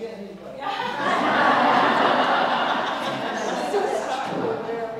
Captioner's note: laugh